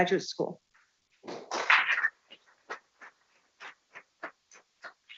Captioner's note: people clapping